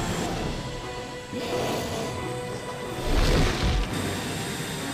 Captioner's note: sphinx roaring